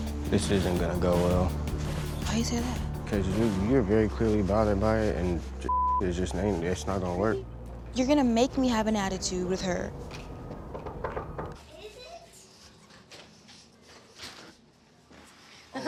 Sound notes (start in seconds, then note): 5.6 beep; 10.0 knocking on the door